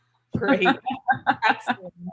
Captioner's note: laughs